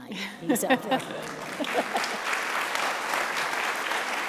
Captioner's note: audience applauds